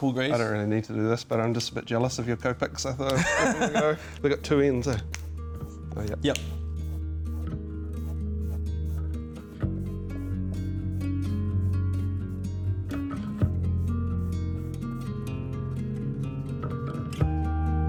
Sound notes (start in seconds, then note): 3.1 laughs; 6.1 pen top clicks